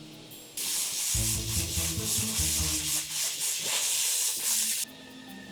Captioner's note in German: spritzen